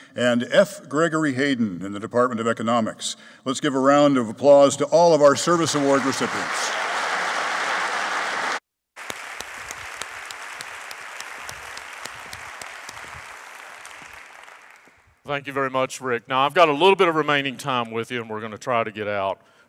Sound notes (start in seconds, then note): 6.7 applauding